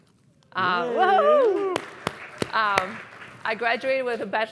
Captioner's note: applause